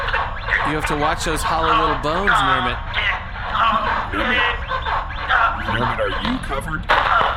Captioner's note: groaning and making incohesive noises